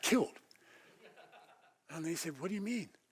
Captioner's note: laugh